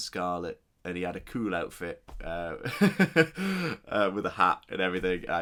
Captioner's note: laughs